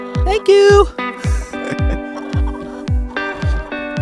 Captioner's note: chuckles